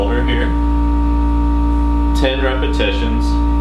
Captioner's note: buzzing